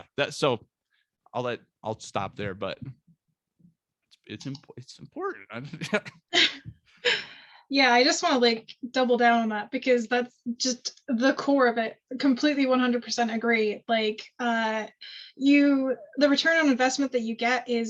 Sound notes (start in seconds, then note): 5.6 chuckles